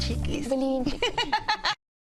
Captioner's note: laughs